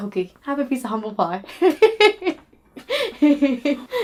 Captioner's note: laughing